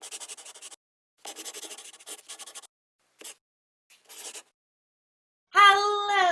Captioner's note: the sound of a pen scratching